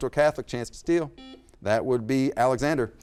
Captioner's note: buzzer beeps